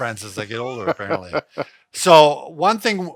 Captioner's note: laughs